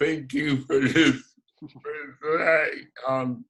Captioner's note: laughs